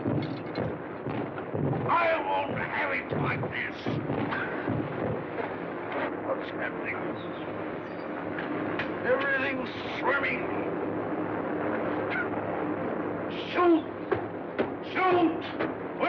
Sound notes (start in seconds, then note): 3.9 coughing